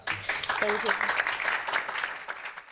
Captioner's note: applause